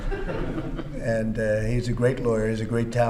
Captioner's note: laughter